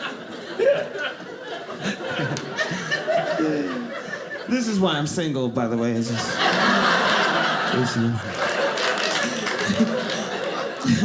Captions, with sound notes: This is why I'm single by the way. (audience laughing)